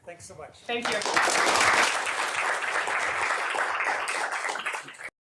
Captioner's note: applause